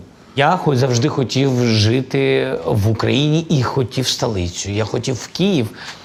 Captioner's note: Zelenskyy speaking in Ukrainian